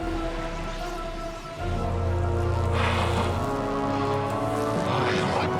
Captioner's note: machine whirring